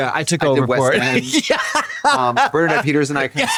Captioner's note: Katya guffaws